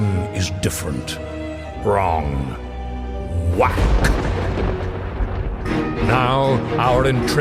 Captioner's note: lightning strikes, music picks up tempo